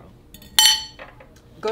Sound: fork clatters

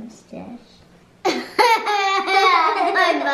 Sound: laughter

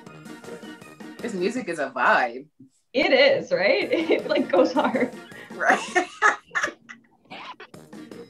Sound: laughs

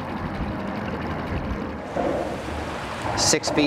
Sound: boat engine revving; soft instrumental music

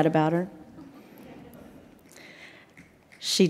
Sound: audience laughs

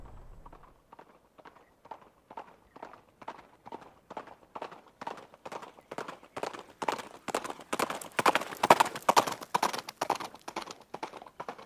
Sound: horse Galloping

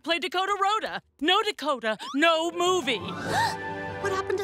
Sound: gasps

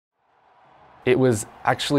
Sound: fans cheering

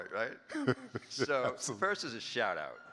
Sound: laughing

